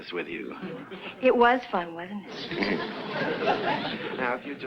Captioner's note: audience laughs